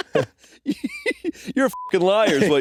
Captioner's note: beeping